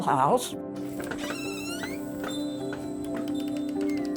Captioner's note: door creaks; light music continues